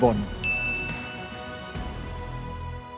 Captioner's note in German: Klingeln; Imposante Klänge